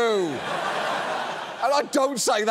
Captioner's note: audience laughs